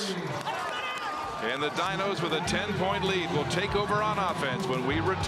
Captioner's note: cheering and Applause